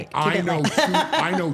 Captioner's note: laughs